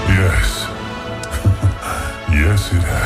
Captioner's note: laughs